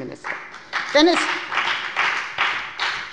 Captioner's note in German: Beifall bei der FDP